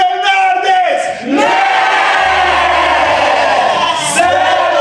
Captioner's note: everyone screams